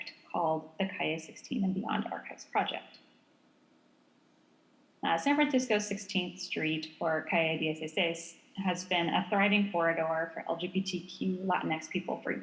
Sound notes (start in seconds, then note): 7.5 speaks foreign language